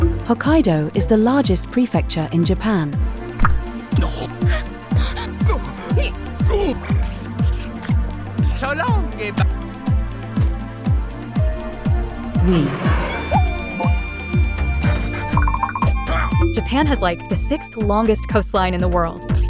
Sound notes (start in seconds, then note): 4.9 dismayed gasps; 15.8 panting; 16.0 grunt